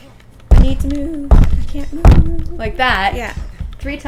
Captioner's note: thump, thump, thump